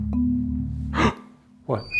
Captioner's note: suspenseful music; gasping